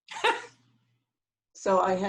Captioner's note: laughs